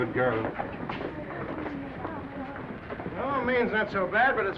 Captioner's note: crowd chattering indistinctly